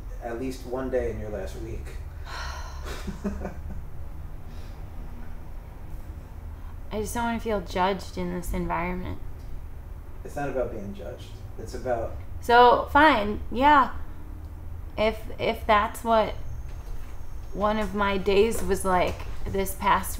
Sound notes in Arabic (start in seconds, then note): 2.2 تتنهد; 2.8 يضحك عالم النفس